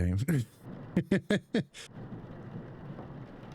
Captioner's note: laughs